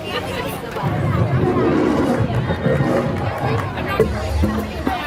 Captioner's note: lion roaring